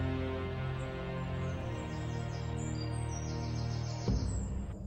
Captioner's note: birds chirping